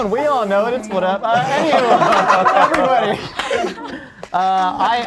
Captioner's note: group laughs